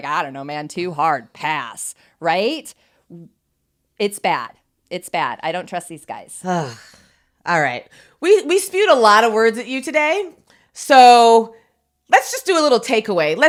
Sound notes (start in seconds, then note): 6.4 sighs